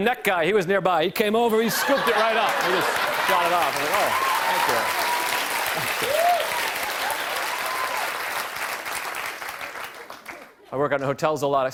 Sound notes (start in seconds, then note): 4.8 cheers and applause